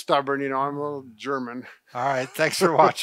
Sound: laughs

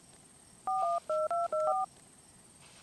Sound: iphone dail sounds

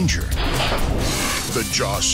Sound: swift mechanical sawing

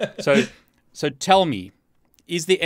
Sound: laughing

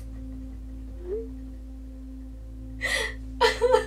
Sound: text tone

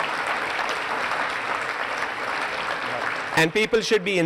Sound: applause

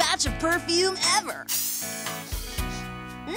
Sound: spritzing

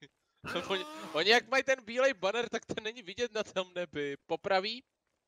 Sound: someone yelling

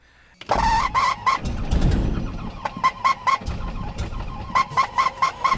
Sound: engine cranking

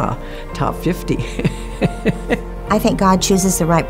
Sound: laughter

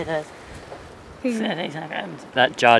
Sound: imitating judge

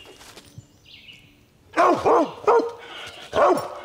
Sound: dog barks

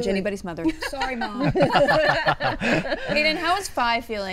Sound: all laughing

